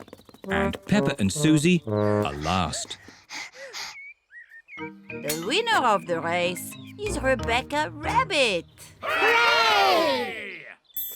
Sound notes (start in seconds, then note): 2.0 both pant